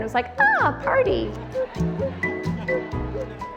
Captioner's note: indistinct chatter and laughter